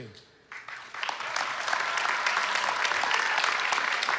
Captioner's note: applause